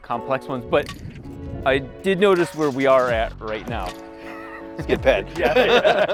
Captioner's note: laughs